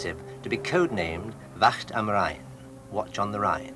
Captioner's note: speaking in foreign language